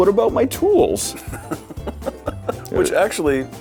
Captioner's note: Jon laughs